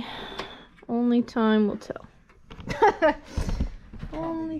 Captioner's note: laughs